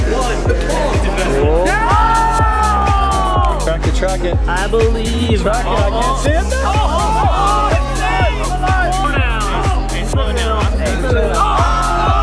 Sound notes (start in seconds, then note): 1.6 cheers